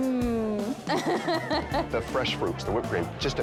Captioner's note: laughing